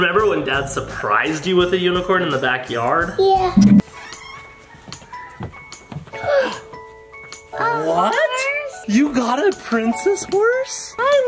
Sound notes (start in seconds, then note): 4.1 door creaking; 6.1 lullaby music; 6.2 gasping of air